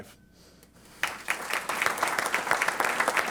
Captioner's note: applause